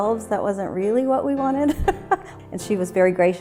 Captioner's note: laughs